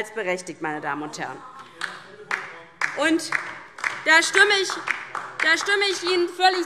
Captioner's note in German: Beifall DIE LINKE